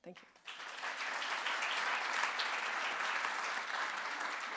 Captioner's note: audience claps